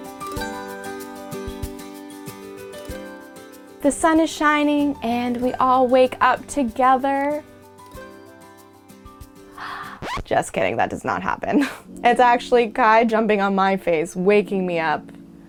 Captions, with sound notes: The sun is shining and we all wake up together. Just kidding, that does not happen. (record scratch) It's actually Kai jumping on my face waking me up,